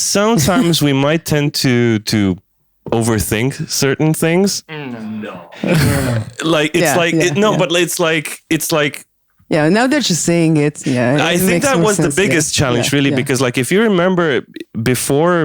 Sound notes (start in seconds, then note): 6.6 stammers trying to find the words